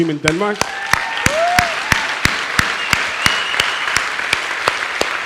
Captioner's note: audience applauds and cheers